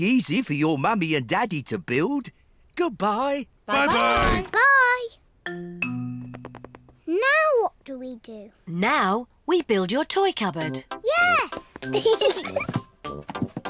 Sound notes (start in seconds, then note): 9.4 both giggle